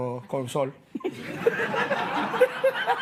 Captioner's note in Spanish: Risas